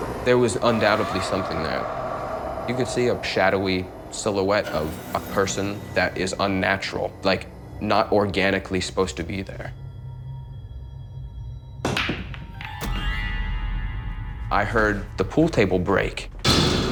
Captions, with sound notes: There was undoubtedly something there. You could see a shadowy silhouette of a person that is unnatural. Like, not organically supposed to be there. (pool balls clacking) I heard the pool table break.